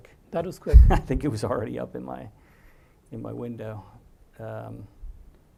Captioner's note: laugh